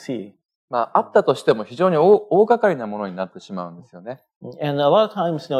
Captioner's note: speaking japanese